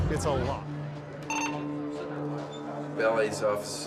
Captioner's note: walkie-talkie beeps